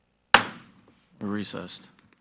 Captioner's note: gavel bangs